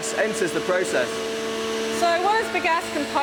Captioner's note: machine running